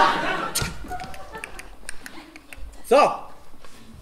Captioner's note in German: Peitschenknall, Pferdegetrappel